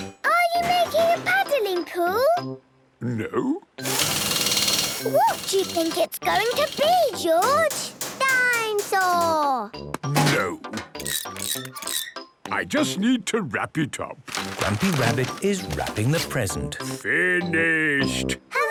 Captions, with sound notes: - Are you making a paddling pool? - No... - (drilling) - What do you think it's going to be, George? - Dinosaur! - No! - (wrenching, squeaking) - I just need to wrap it up. - Grampy Rabbit is wrapping the present. - Finished!